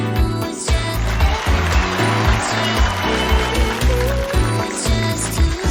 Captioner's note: crowd cheering